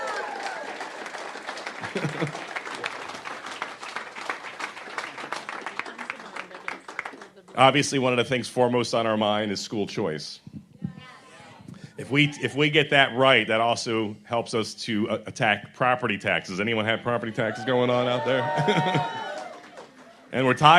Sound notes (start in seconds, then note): 7.4 applause